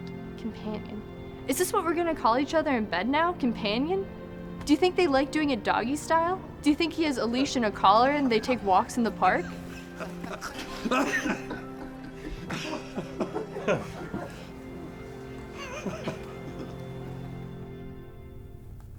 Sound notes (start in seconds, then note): 9.2 laughter; 17.3 music resolves